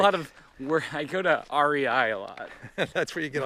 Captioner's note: laughs